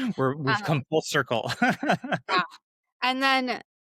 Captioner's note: chuckling